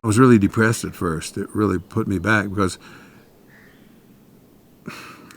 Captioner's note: sighs